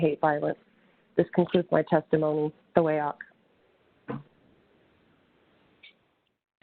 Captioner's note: speaking in native language